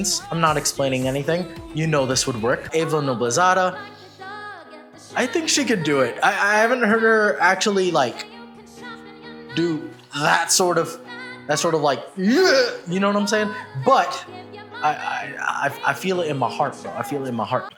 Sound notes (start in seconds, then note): 12.3 yeaugh